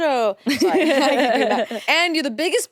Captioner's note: everyone laughs